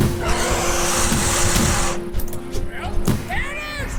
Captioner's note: gunfire; angry roar